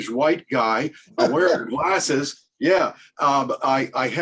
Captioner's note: laughs